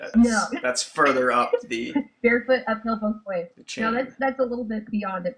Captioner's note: laughs